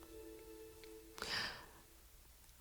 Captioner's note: gasps